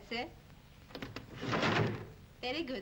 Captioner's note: desk clatters